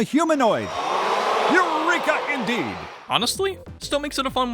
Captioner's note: audience is wow’d